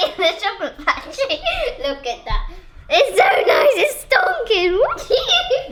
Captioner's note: laughing